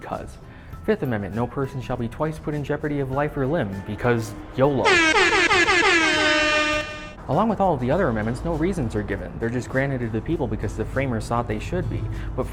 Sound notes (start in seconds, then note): 4.8 air horns